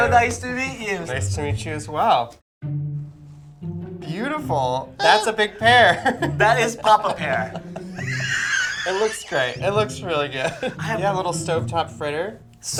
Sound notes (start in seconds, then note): 5.8 laughs; 7.7 both laugh